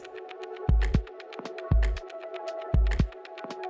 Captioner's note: clicks; somber music